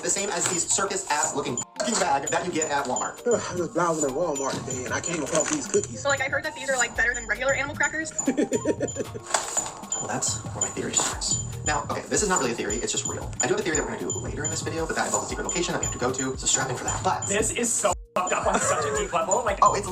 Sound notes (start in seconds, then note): 8.2 person 2 laughs